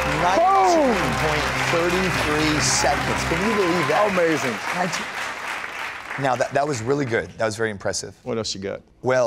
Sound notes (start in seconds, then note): 3.5 applause